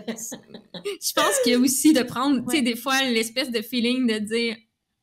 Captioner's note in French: Rires